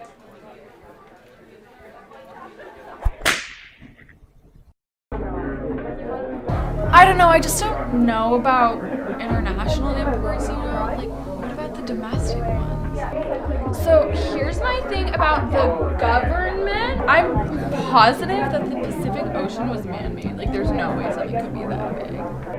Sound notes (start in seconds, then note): 3.0 whip snap